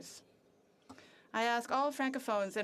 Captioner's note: speaking French